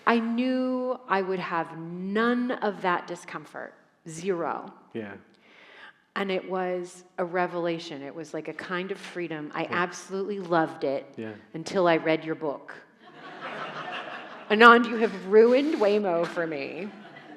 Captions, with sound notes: I knew I would have none of that discomfort, zero. - Yeah. - And it was a revelation, it was like a kind of freedom. I absolutely loved it- - Yeah. - Until I read your book. (audience laughing) Anand, you have ruined Waymo for me.